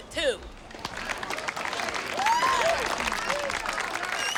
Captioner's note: cheers and applause